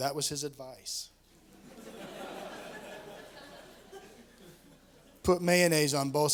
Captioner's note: laughter